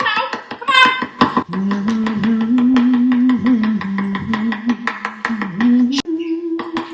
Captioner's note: humming